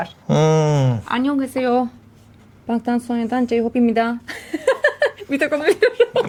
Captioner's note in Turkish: kahkaha